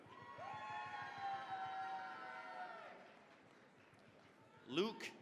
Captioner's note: cheering, applause